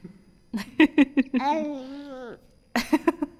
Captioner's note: laughing; cooing; laughing